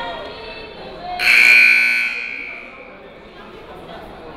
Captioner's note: buzzer